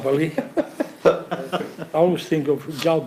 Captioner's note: laughs